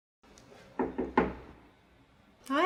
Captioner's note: three raps on door